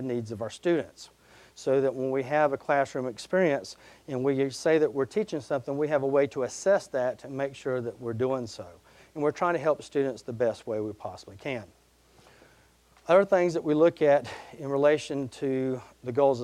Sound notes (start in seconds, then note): none